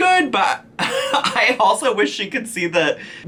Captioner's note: chuckles